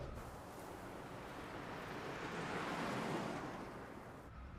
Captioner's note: traffic humming